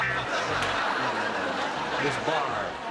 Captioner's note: laughter